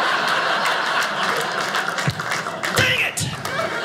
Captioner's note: audience laughing